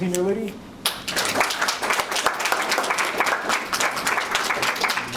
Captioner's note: audience applauds